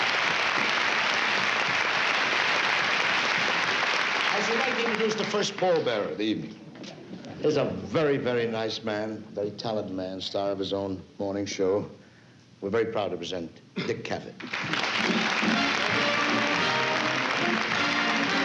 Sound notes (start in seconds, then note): 14.4 applause; 15.0 fanfare playing